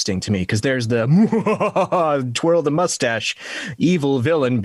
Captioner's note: laughs